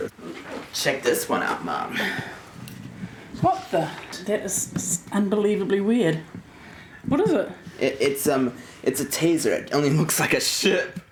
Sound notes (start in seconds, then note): none